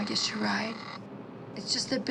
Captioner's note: phone buzzing